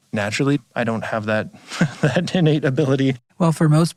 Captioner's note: chuckles